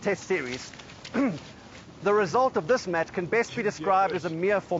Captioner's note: clears throat